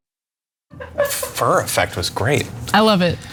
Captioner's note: laugh